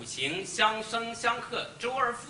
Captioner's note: speaks Chinese